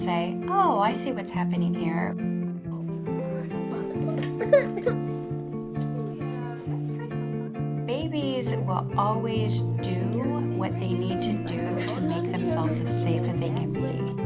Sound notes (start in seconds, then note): 4.4 crying